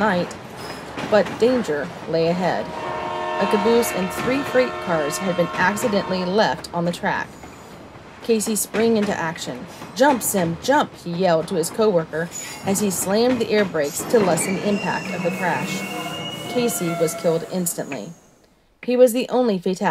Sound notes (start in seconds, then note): 6.8 train horn; 14.2 train horn and screeching brakes